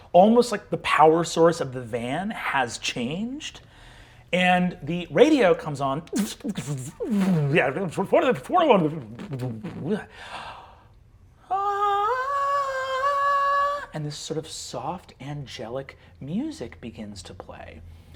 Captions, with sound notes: almost like the power source of the van has changed. And the radio comes on, (mimics radio static) (mimics angelic singing) and this sort of soft, angelic music begins to play.